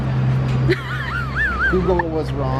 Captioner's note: laughs